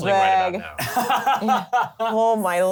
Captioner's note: laughs